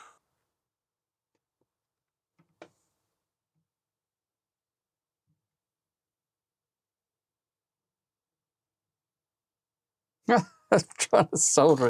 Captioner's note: silence